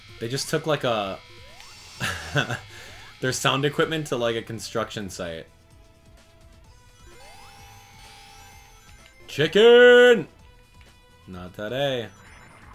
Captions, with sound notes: They just took like a... [Laughter] Their sound equipment to like a construction sight. Chicken! Not today.